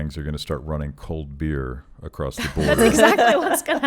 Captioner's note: laughing